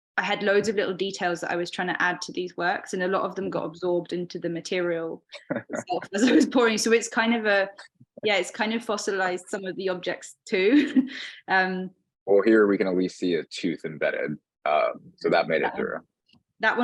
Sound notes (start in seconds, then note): 5.4 laughing; 12.3 chuckling